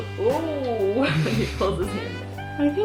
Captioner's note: laughing